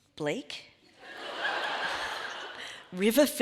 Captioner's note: audience laughs